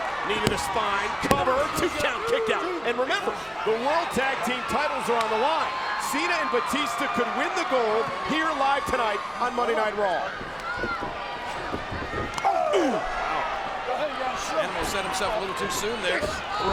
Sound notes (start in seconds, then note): 1.2 hands thudding; 10.3 footsteps plodding; 11.1 crowd cheering; 12.2 blow thudding